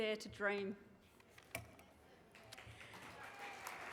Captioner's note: applause